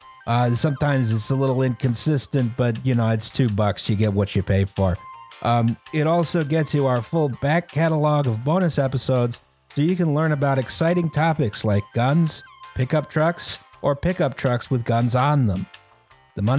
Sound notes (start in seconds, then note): none